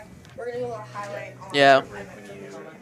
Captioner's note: indistinct chatter